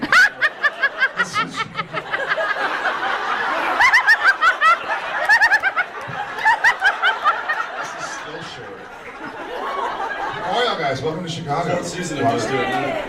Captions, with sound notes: [audience laughs] [laughing] This one’s shorter. [audience laughs] This is still short. How are y’all guys? Welcome to Chicago. Fourth season, I’m used to it now. A lot of